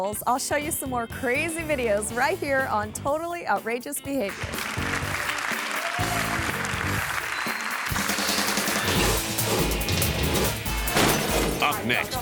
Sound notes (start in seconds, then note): 4.3 audience applauding; 8.1 upbeat pulsating music; 8.8 graphics whooshing; 10.9 glass shattering; 10.9 graphics thump